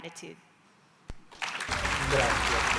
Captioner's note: applause